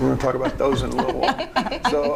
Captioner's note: chuckling